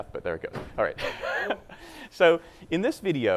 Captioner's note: laughing